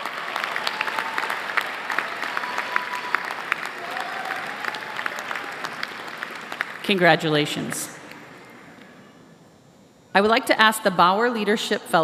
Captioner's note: applause